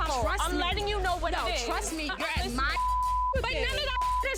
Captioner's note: beep